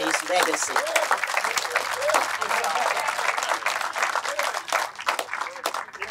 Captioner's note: applause